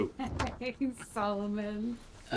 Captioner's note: chuckles